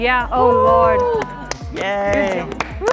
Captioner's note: contestants cheering